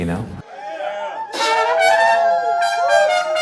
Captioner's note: crowd cheering, exclaiming